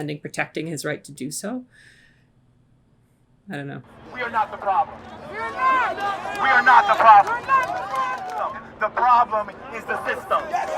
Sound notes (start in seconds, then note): 3.9 crowd speaking